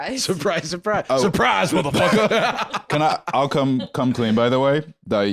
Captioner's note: laughs